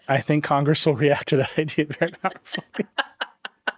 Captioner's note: laughing